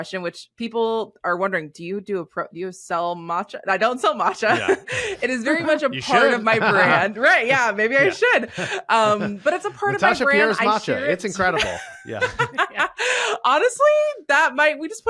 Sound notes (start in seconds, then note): 11.4 laughs